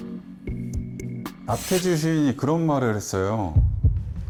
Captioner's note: out-of-nowhere sound effect